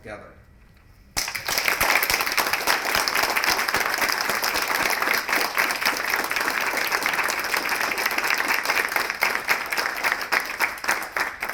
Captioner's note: applause